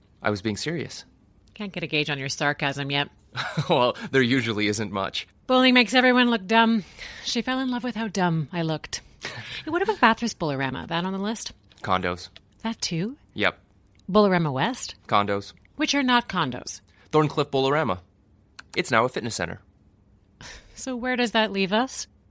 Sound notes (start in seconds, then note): 9.2 Dhruv chuckles